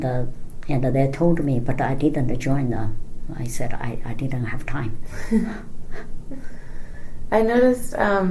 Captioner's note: laughs